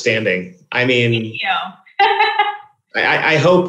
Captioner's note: laughs